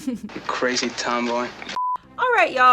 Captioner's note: laughs; beep